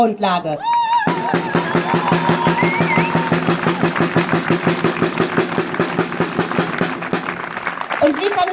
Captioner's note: cheers and drums